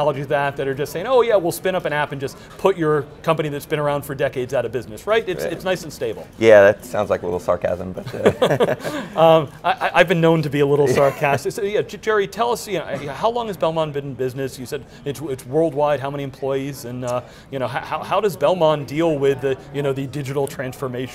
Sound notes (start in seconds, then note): 8.0 laughs